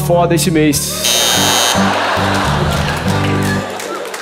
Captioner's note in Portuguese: campainha